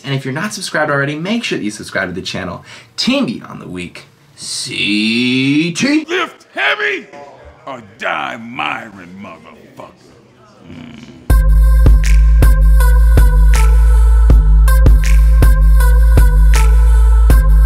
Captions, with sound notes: and if you're not subscribed already, make sure that you subscribe to the channel. Team Beyond the Weak. See T. - Lift heavy or die mirin' motherfucker. (growls) (bright electronic music)